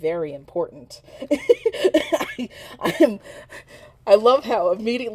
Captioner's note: laughing at chat